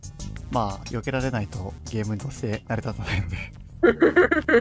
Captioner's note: laughs